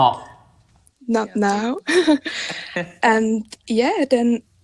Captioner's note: chuckles